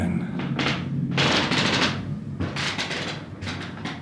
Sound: floor creaking

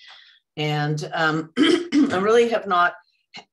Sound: clears throat

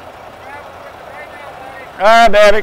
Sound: shouting

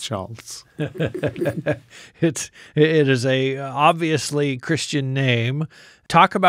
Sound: laughs

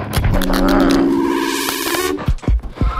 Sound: disjointed eerie music; grunts

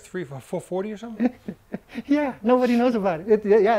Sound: laughs

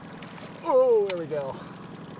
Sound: fish splashing

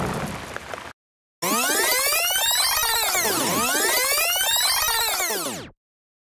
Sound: tape rewind

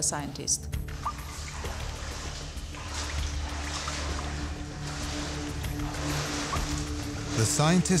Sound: footsteps on water

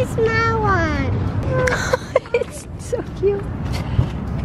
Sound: chuckling

